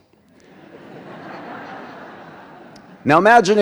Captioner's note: audience laughs